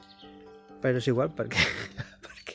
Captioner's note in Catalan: Riu